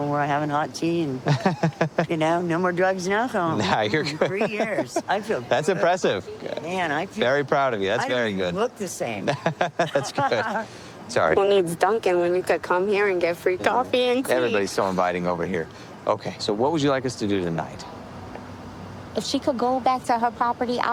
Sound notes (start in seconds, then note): 1.2 laughs; 9.2 laughing